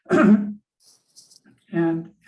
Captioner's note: clears throat